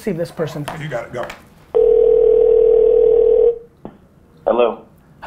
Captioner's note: phone ringing